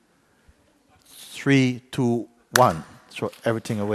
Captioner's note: claps